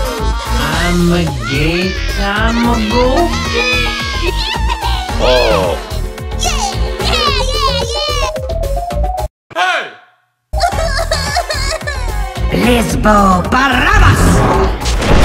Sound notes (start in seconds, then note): 2.7 continues laughing; 7.0 laughs some more; 10.7 crying